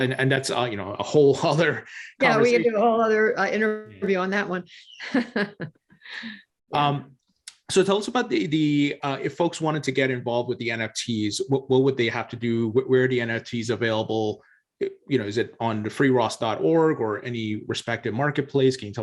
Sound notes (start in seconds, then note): 5.0 laughs